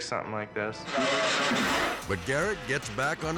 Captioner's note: bike buzzing